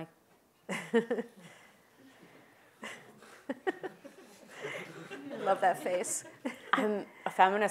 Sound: laugh

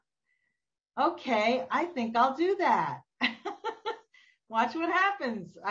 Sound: laughs

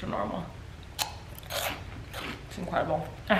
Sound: crunch sounds

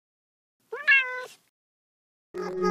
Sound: cat meow

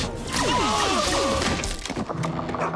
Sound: moaning

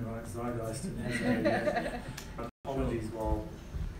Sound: laugh

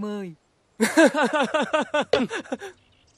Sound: laughing

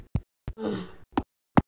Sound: groans

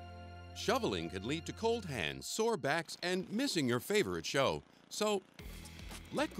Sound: voiceover

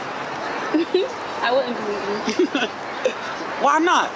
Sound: giggle

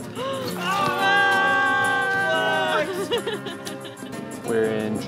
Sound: laughing; students cheering

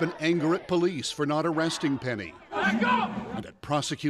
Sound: chanting

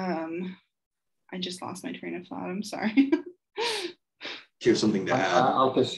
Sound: chuckles

